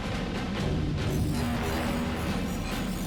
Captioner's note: electrical humming